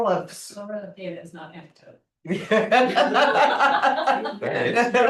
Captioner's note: laughs